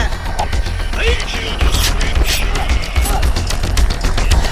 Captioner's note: grunting